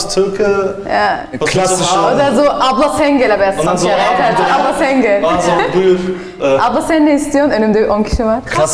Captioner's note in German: Sie spricht türkisch